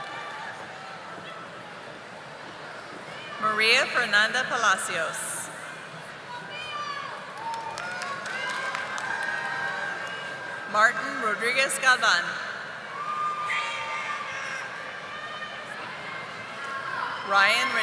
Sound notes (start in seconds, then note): 3.5 audience applauding